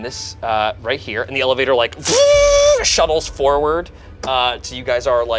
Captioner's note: lift whirs